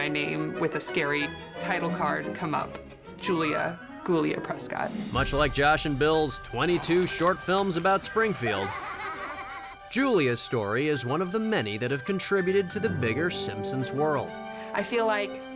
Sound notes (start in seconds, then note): 8.3 both laughing